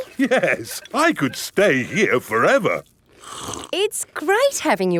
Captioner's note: slurps